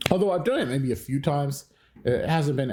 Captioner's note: slap